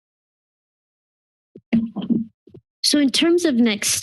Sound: silence; mic thump

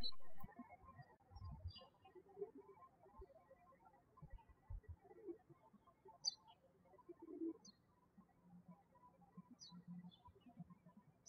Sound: birds chirping

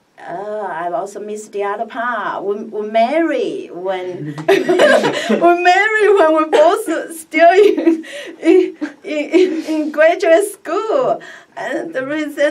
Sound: laughs

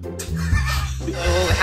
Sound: laughs

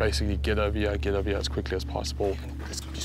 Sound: whispering

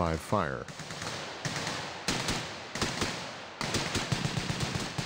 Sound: rapid, continuous gunfire

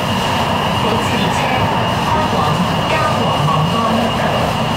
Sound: Cantonese

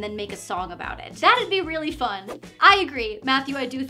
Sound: whoosh

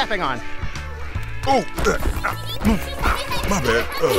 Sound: Hyper Lythop giggling

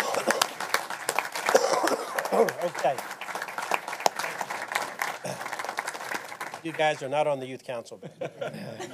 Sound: applause

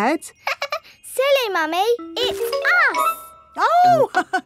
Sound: laughs; chuckles

